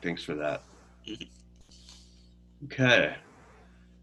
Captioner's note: silence